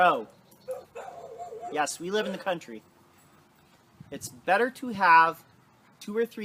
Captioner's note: dogs barking in background